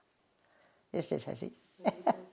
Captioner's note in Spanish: ríe